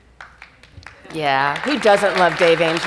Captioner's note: audience applauds